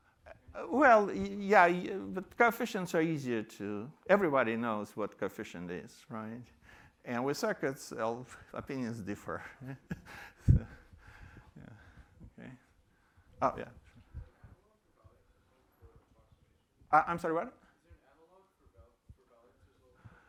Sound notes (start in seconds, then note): 9.2 chuckles